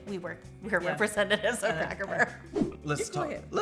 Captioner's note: laughs